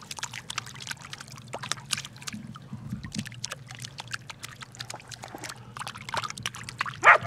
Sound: dogs barking

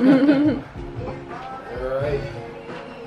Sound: chuckles

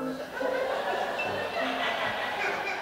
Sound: laughter

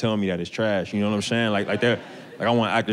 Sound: audience laughter

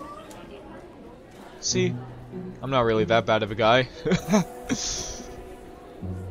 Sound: chuckles

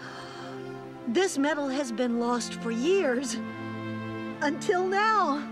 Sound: gasp!

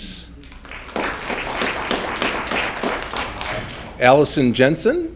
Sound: audience clapping

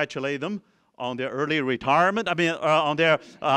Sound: laughter

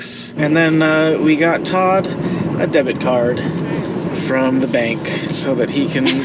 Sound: laughs

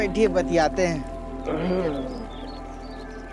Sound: Kuldeep grunts

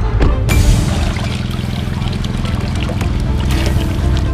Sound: water dripping

